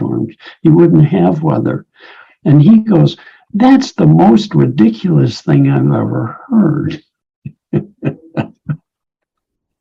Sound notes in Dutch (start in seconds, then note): 7.5 lacht